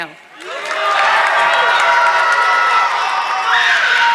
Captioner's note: audience clapping